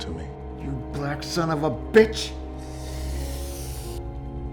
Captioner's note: hisses